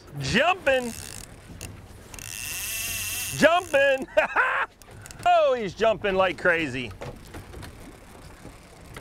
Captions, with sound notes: Jumpin'! Jumpin'! (laughs) Oh, he's jumping like crazy.